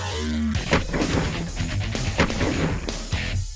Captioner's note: gun fires; rock music